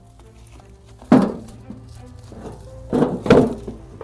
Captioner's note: heavy stone hitting metal